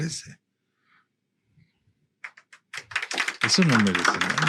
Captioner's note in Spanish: aplausos